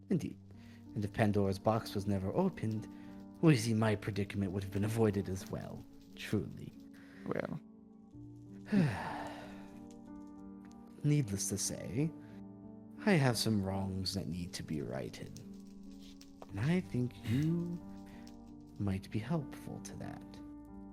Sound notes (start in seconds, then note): 8.6 sighs